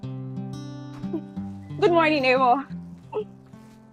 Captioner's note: chuckles